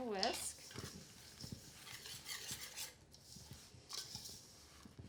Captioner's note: stirring